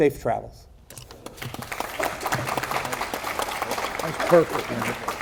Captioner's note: audience applauding